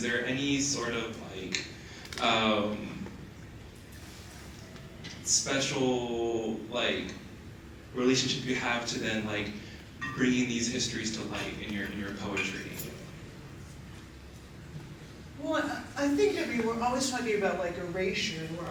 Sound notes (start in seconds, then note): none